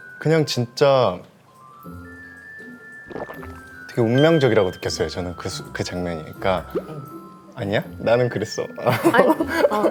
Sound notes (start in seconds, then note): 3.1 gulp